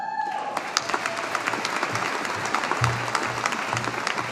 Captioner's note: audience applauding